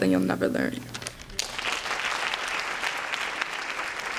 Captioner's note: applause